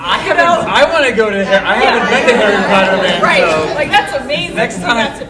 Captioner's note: shouting and laughing drowns out speakers